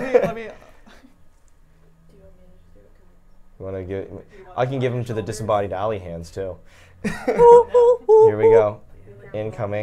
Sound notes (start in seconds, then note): 0.0 laughs; 7.0 laughs; 7.3 humming